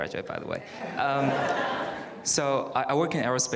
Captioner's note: audience laughs